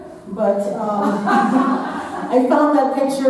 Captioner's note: audience laughing